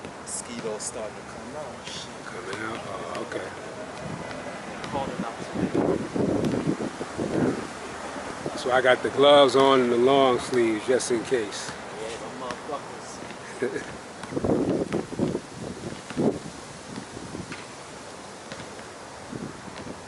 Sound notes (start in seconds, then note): 7.5 wind howling; 13.4 laughs; 14.1 basket ball tapping; 14.3 wind howling